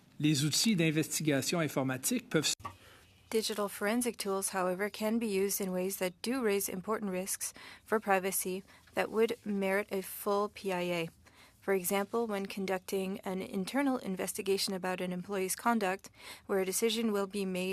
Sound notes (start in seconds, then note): 6.5 speaking French